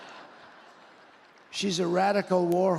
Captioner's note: laughter